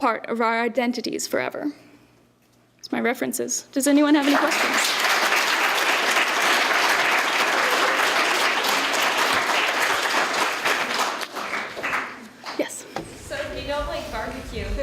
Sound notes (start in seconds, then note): 4.2 applause